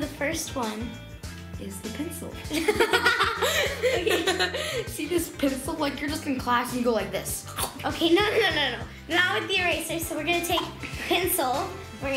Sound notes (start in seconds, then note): 2.5 laughter; 7.2 bite noise